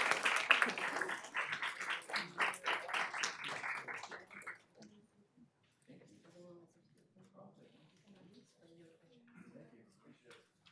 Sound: applause

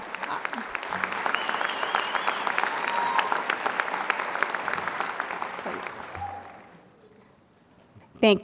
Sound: applause

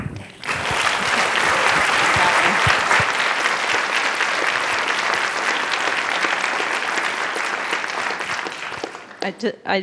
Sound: applause

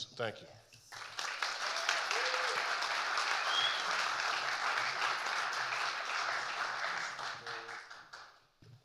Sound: audience applauding and cheering

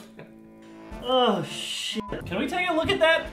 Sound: chuckling; sighs

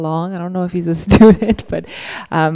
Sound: laughs

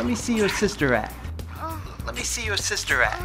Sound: moaning

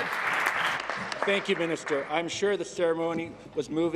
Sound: applause

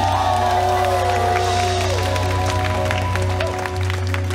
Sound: choir clapping

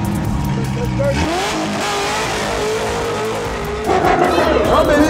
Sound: engine roaring

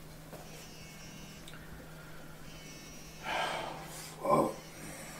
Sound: man sighing; phone buzzing

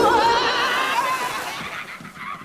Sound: screaming

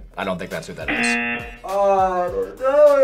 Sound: buzzer rings

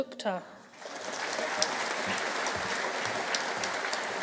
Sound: audience cheering

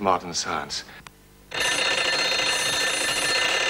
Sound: telephone ringing

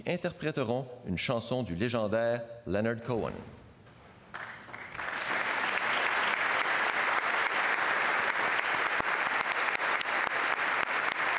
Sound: speaking French

